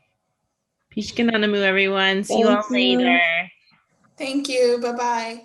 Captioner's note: non-english